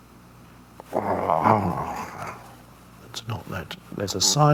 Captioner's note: Eckhart growls